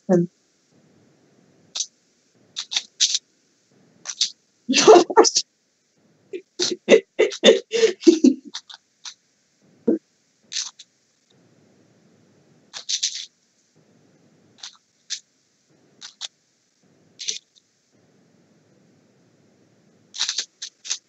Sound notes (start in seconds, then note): 0.3 Sounds of the Rubik's Cube; 6.4 laughter; 10.1 Sounds of the Rubik's Cube